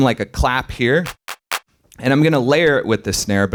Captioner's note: clap sound